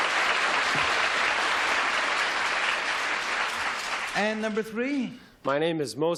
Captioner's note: applause